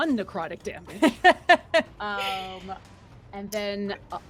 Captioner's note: laughs